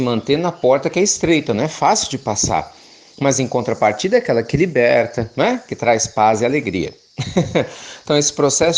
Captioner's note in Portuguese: risos